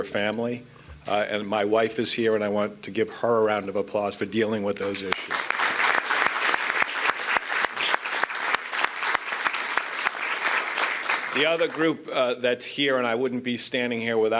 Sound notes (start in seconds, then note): 7.0 applause